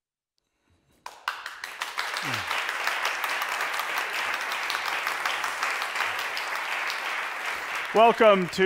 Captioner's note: applause